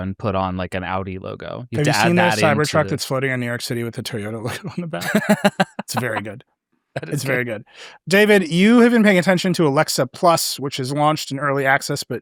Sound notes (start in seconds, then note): 4.1 laughs